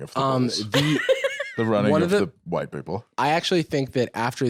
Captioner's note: laughs